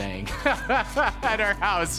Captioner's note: laughs